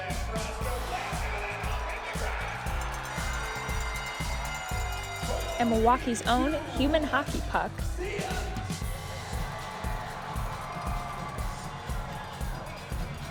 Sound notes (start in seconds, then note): 0.3 audience cheering drowns out commentator; 3.0 cowbells jingling; 9.0 audience cheers